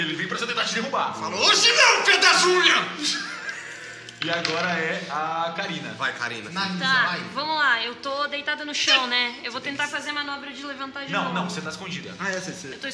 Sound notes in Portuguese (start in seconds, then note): 3.0 risadas